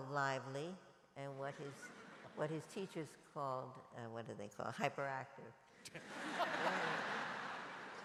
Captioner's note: laughter